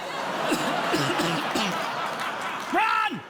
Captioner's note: coughs